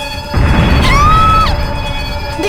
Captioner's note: scream